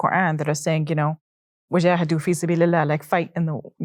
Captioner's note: speaking Arabic